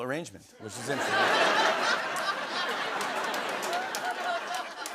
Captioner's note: laughter